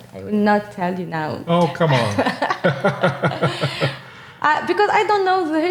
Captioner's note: both chuckling